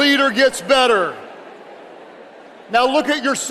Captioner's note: audience chattering indistinctly